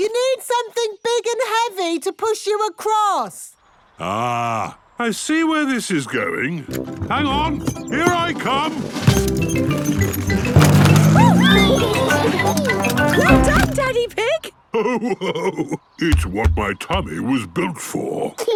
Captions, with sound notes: - You need something big and heavy to push you across! - Ah. I see where this is going. Hang on! Here I come! - Oh! - Wee! (giggles) - Well done, Daddy Pig. (laughing) - It's what my tummy was built for!